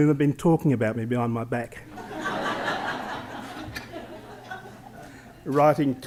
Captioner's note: laughter